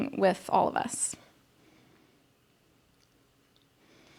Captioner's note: sighs